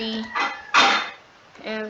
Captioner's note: plate sounds